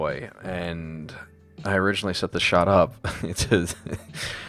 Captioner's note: laughs